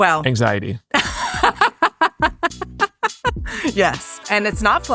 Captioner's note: laughing